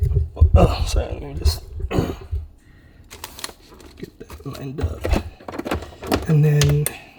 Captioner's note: clears throat